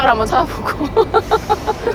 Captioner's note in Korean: 웃음